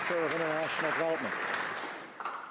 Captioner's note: some Applause